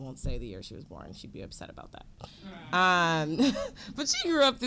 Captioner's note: audience laughing